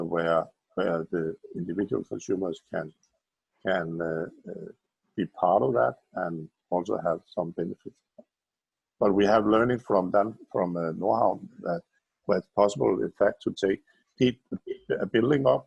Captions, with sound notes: where the individual consumers can be part of that and also have something (murmurs) but we have learning from them from Nordhavn with possible effect to keep building up,